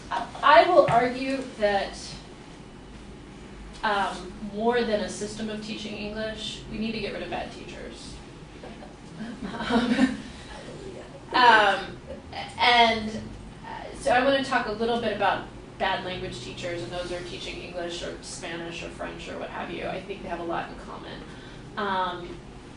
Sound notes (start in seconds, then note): 9.1 laughs